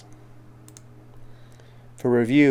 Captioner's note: mouse clicking